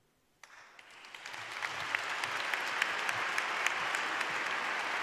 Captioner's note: applause